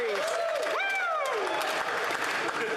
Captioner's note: cheering and Applause